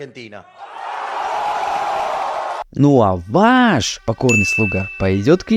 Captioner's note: ovation